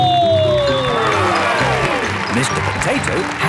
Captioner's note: cheering